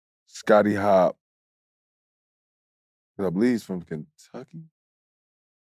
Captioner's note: none